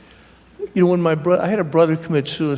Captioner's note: none